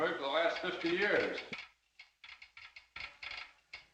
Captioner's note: telegraph clicking